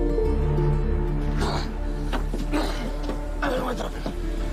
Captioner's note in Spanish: Gruñidos